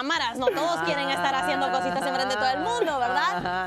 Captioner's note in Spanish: risas